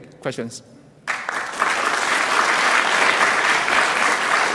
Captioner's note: clapping